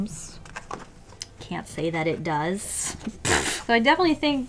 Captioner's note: laughs